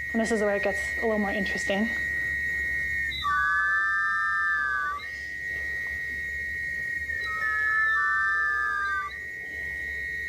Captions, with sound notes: And this is where it gets a little more interesting. [OVERLAPPING WHISTLING]